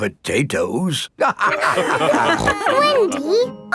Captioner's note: all laughing